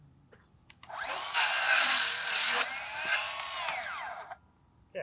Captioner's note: saw buzzing